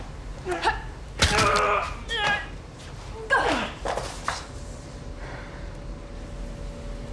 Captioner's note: bone crunching; fighters grunting